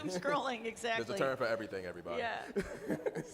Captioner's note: chuckling